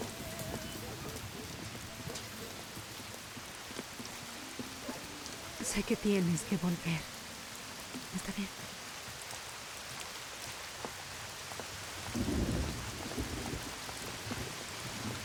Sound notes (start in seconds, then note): 0.1 dog barking; 12.0 thunder